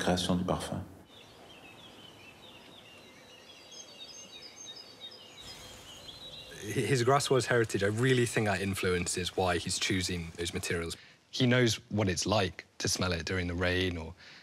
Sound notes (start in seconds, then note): 1.1 birds chirping